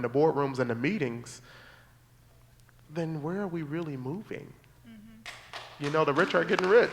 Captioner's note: applause